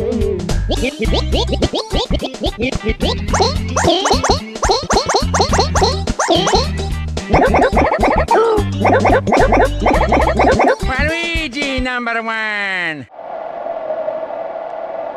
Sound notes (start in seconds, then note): 0.0 King Bob-omb voice; 0.3 Bob-omb voice; 3.1 Goomba voice; 7.0 Koopa voice